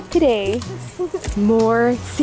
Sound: chuckling

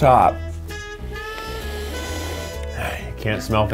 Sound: sniffing

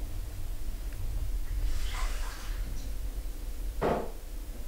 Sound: sound of tap running to fill glass

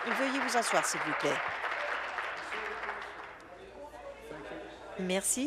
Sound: applause

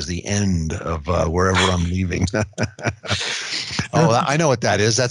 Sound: laughs

